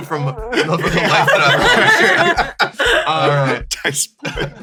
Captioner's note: laughter